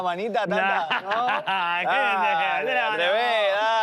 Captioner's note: laughs